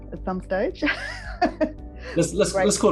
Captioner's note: laughs